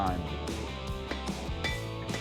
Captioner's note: metal clinking